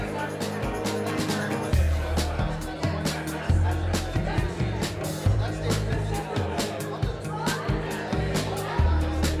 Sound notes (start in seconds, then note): 0.2 upbeat music; 3.1 visitors chatting